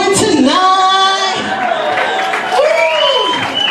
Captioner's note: crowd cheers